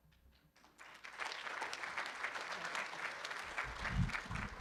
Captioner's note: room applauds